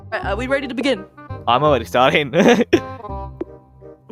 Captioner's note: nervous laughter